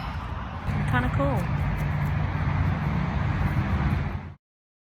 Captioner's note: traffic noise continues